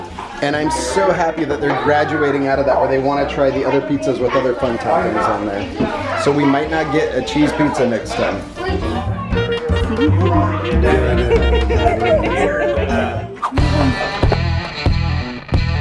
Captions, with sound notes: and I'm so happy that they're graduating out of that, where they want to try the other pizzas with other fun toppings on there. So we might not get a cheese pizza next time. (laughing) (rock music)